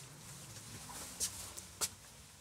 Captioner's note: footsteps